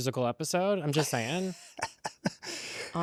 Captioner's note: laughs